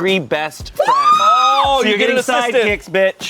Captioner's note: screams